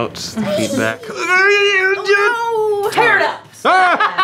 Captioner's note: silly noise; laughter